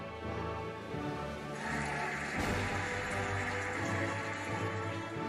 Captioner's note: cheering and applauding